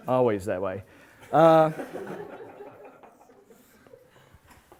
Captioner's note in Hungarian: nevetés